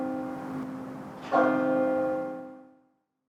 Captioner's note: bell chiming